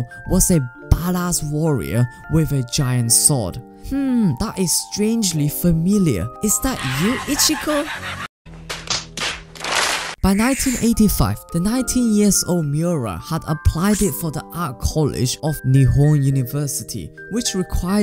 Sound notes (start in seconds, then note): 8.6 slap